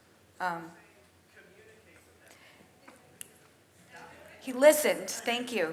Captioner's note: audience member speaks off-microphone